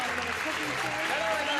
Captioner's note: clapping